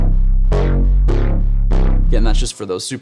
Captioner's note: electronic tones sounding